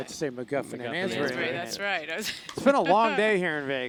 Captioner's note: laughing